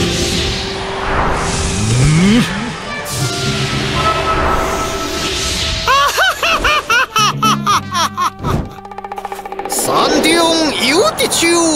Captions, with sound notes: *maniac laughter* "There are straight trees in mountains"